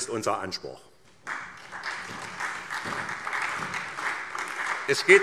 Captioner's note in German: Beifall SPD